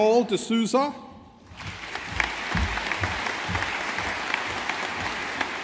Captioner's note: audience applauding